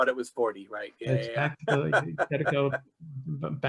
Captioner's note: laughing